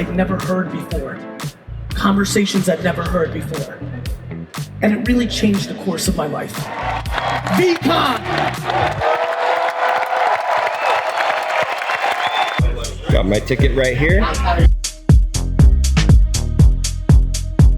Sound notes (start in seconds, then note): 6.5 crowd clapping and cheering; 14.5 upbeat music begins